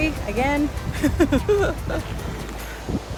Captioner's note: laughter